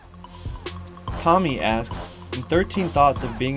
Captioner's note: voiceover